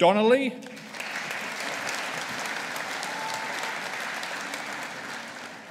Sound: audience applauding

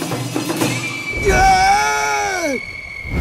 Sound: Wan screams as he falls off the balcony

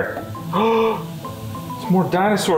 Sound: gasps

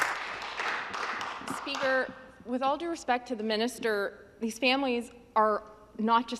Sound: some Applause

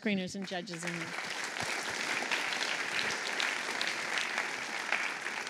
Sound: applause

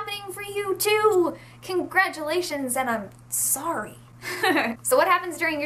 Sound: giggles

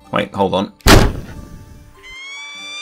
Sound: puff of smoke; peregrine Falcon Screeching

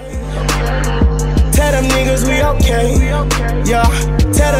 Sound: stammers nervously

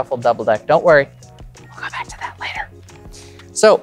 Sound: whispering

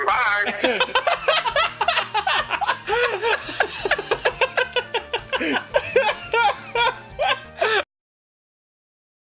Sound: laughing

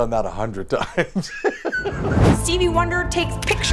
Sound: laughing

